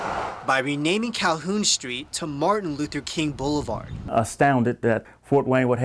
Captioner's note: cars drive